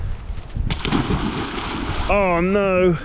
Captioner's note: splosh